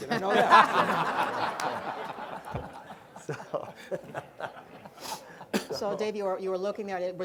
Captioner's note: laughter